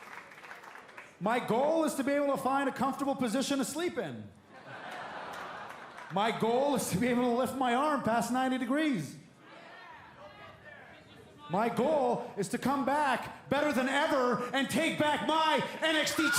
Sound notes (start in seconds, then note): 6.3 laughter